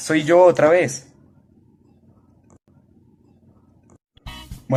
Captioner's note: silence